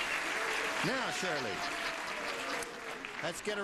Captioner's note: applauding